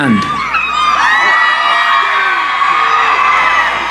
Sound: cheering

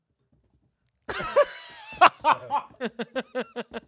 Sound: laughs

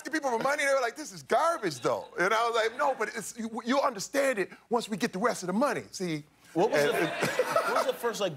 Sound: laughter

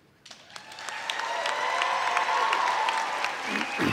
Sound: audience cheers

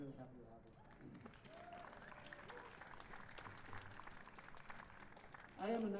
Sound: cheers and applause

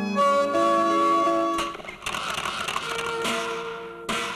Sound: camera clicks

